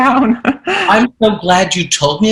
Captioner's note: laughing